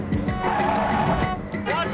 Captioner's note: tires screeching, horn honking